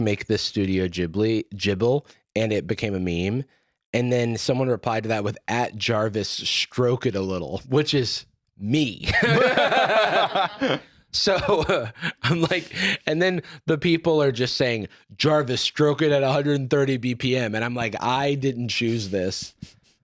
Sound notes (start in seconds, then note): 9.0 both laughing; 9.1 laughing